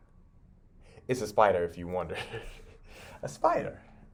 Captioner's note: laughs